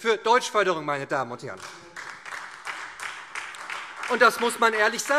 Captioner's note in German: Beifall SPD, vereinzelt Freie Demokraten und DIE LINKE